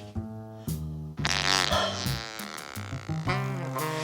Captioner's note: sound of Flatulence